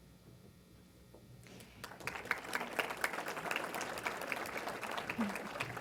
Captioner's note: applause